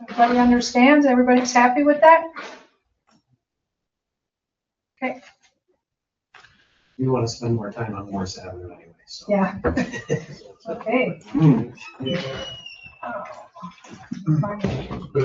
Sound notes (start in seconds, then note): 9.6 all laugh